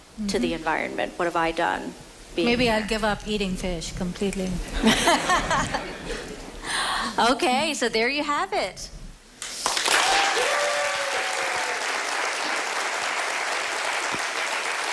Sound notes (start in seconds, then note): 13.9 applause